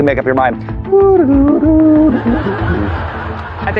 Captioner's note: hums off-key; laughter